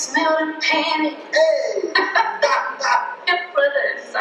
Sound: both laughing

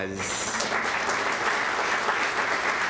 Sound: applause

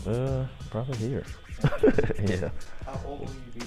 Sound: laughs

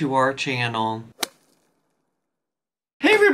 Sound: logo whooshing

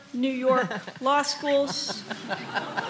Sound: laughter

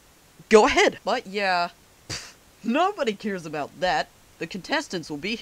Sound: pfft

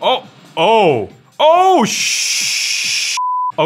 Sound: beep

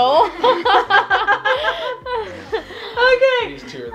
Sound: laughs

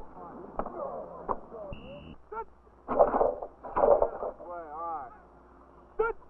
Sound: coaches shouting

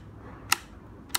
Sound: click

